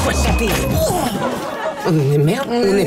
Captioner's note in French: grogne